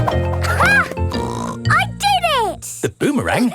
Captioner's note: snorts